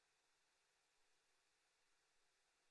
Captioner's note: none